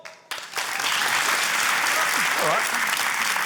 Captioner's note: cheering, applause